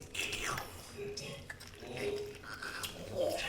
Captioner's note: mouth crackling